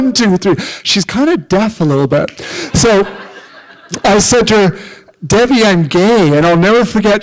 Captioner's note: laughter